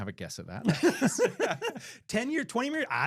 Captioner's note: laughing